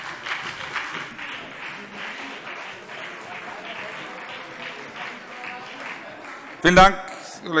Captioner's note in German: Beifall BÜNDNIS 90/DIE GRÜNEN und vereinzelt CDU